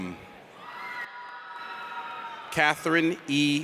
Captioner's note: audience cheers